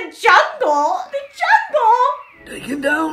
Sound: birds cawing

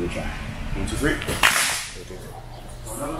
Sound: claps

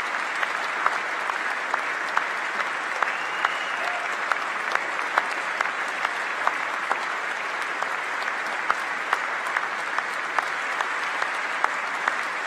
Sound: applause

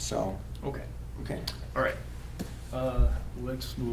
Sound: pat

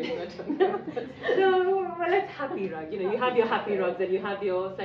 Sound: laughing

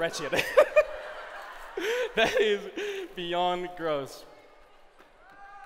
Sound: laughs

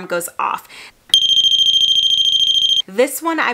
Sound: alarm beeping

